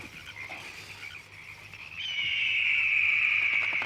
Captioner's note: squawking and flapping